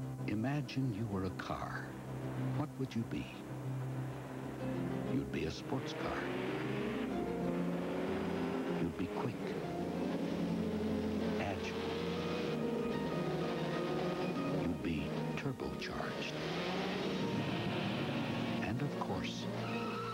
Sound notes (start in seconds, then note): 6.0 sportscar engine; 9.7 engine continues; 16.6 engine continues